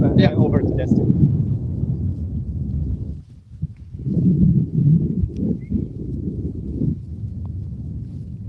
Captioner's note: wind